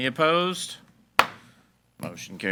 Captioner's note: gavel bangs